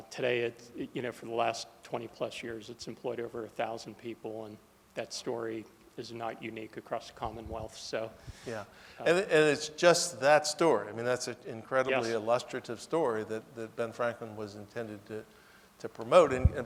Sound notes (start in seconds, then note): none